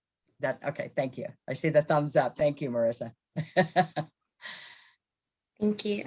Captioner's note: laughing